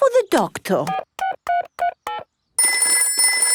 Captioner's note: dialing; telephone ringing